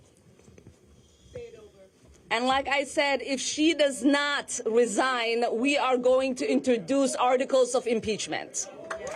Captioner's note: applause